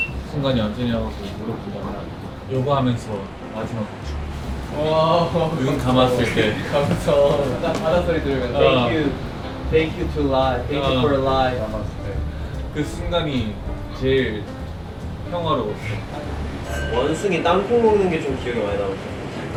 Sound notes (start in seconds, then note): 7.8 wave sound+meditation=heavenly